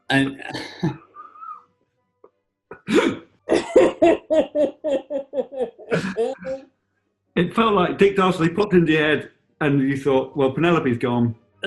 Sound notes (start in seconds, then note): 3.4 laughing